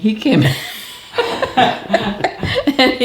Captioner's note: laughing